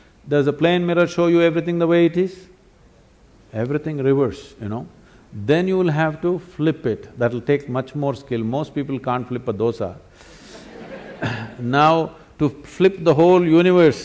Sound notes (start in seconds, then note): 10.5 laughter; 10.5 笑聲